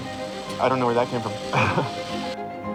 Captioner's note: chuckles